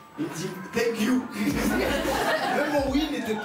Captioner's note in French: rires